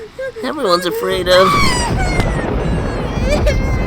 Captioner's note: shrieks